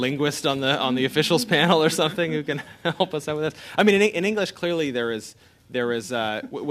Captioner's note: laughter